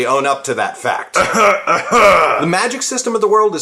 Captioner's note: cough cough